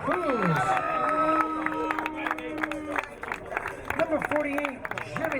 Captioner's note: crowd cheering